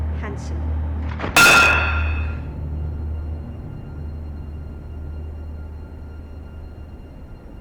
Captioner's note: speaking Russian; uneasy music continues; hammer clanks